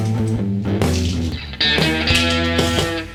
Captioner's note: pills rattling; upbeat blues music continues